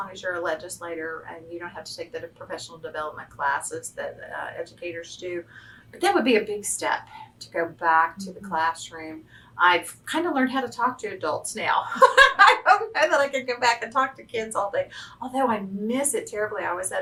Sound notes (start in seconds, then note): 12.0 laughs